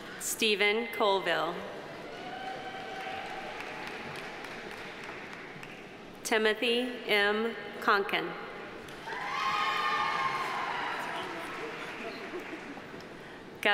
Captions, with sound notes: Stephen Colvill. (audience applauding) (audience cheering) Timothy M. Conkin. (audience applauding) (audience cheering)